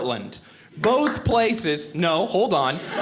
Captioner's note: audience clapping